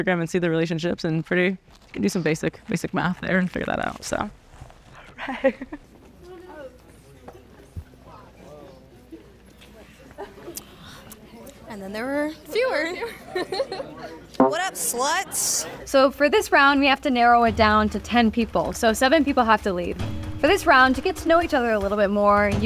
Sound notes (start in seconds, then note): 5.2 laughing; 13.0 laughing; 14.4 taut string plucked